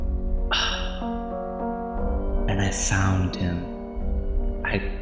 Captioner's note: sigh